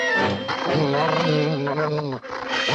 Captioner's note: dog growling